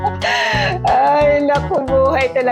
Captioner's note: laughed